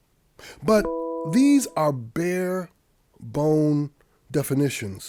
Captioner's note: computer chiming